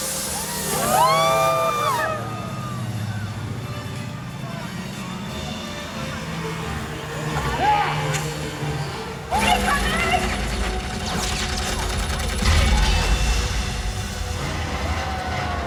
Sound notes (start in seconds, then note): 0.0 tense music intensifies; 0.0 crowd wooping in excitement; 0.1 jet ski roaring; 9.4 machine gun fires; 12.6 fiery explosion